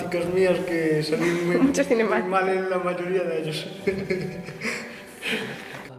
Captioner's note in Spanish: risas